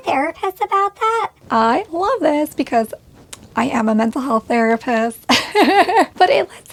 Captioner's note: laughs